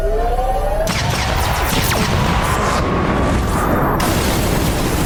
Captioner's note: lasers firing